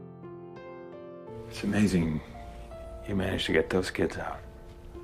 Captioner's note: voiceover